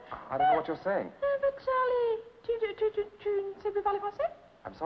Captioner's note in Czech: mluví francouzsky